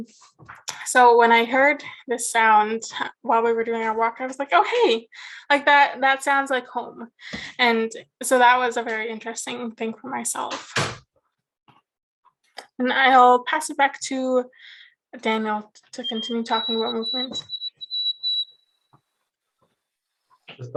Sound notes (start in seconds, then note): 11.0 object bangs; 16.6 sparrow squeaking